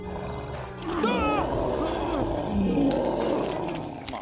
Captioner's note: bear roaring; officer shouts; bones crack